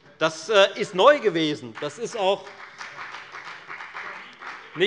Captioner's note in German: Beifall bei der FDP